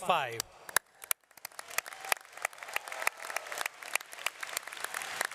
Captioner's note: audience applauds